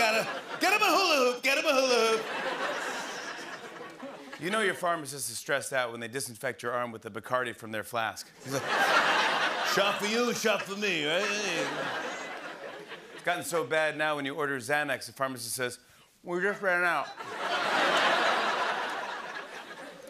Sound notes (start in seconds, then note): 1.8 laughter; 11.4 laughter; 17.1 laughter